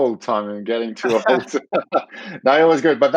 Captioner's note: laughing